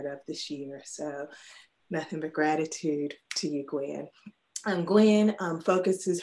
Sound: mutters

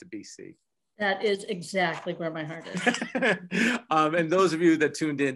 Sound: laughs

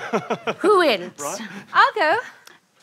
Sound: chuckles

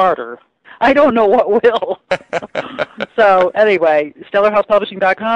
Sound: laughs

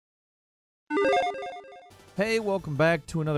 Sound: logo beeps

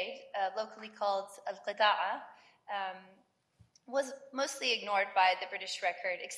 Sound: speaks in foreign language

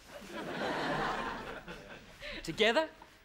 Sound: crowd laughs

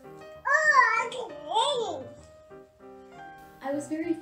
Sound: baby noises

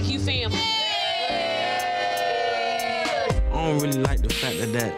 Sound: guests cheering

